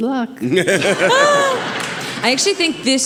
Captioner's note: audience laughing